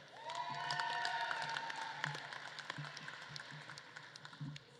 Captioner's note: audience claps and cheers